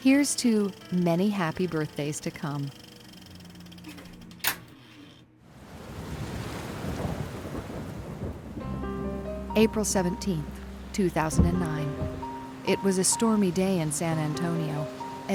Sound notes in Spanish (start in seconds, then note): 5.6 sonido de lluvia y tránsito